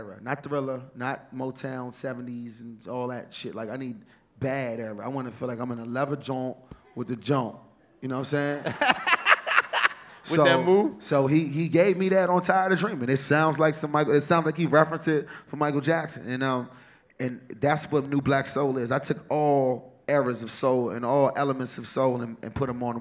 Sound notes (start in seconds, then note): 8.4 laughter